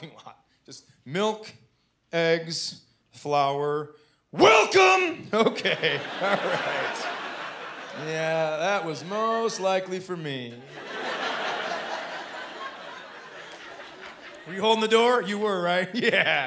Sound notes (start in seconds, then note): 5.4 chuckling